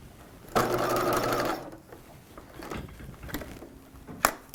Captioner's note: machine whirring